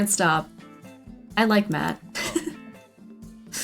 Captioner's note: laughs